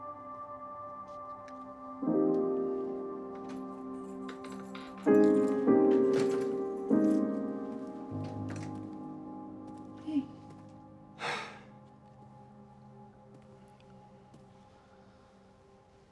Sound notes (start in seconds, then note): 11.2 sighs